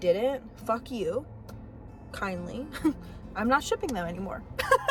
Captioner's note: giggle; laugh